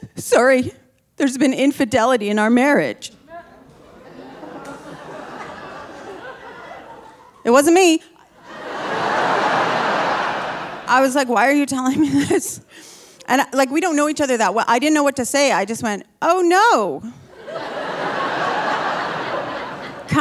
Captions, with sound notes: "Sorry, there's been infidelity in our marriage." (audience laughing) It wasn't me. (audience laughing) I was like, "Why are you (laughing) telling me this?" And like, we don't know each other that well. I didn't know what to say. I just went, "Oh, no. (audience laughing)